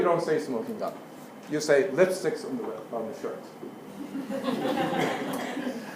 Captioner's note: laugh